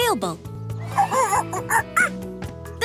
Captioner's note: monkey noises